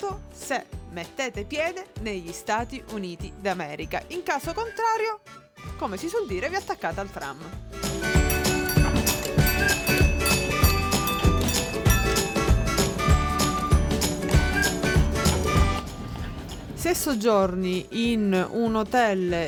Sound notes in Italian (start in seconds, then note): 11.7 Bell Ringing